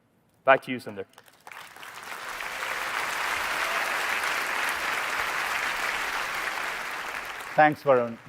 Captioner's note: applause